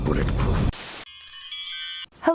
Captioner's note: chimes